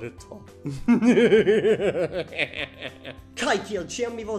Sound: evil laughter

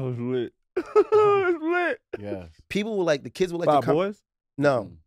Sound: laughs

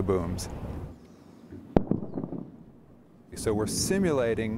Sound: sound of jet flying overhead and loud sonic boom

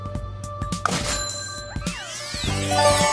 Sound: money sound

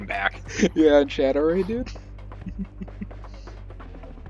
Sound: laughs

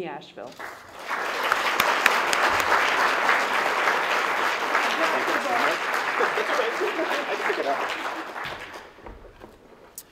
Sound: applause

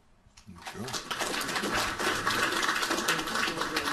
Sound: applauding

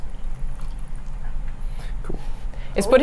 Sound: liquid sloshing

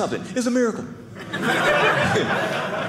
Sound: audience laughing

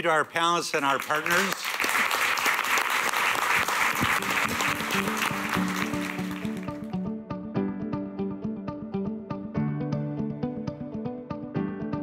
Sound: applause

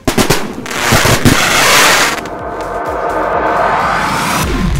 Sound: fireworks popping; fireworks sizzling; fireworks popping; fireworks sizzling; energetic dubstep music

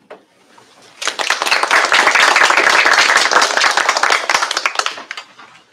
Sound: applause

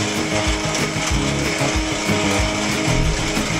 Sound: the sound of coffee going and collaboration

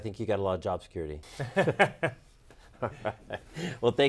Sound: laughter

